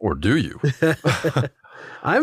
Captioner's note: laugh